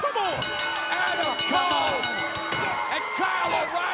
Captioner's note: bell ringing